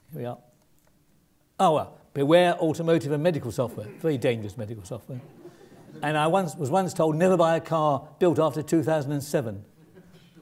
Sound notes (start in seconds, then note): 5.2 laugh